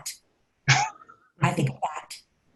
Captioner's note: laughs